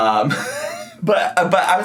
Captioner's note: laughs